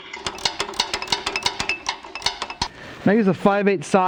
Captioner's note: tool clicking